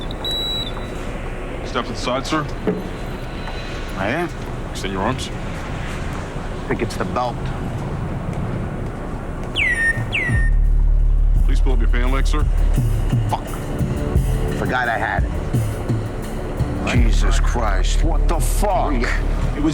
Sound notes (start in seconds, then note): 0.0 machine beeping; 9.6 machine chirping